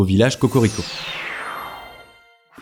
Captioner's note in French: bruit de téléportation